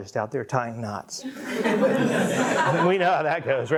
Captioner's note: audience laughing